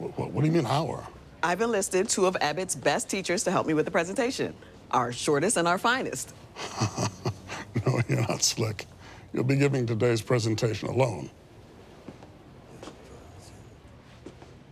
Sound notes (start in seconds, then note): 6.5 chuckles